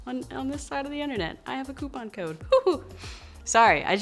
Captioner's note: she giggles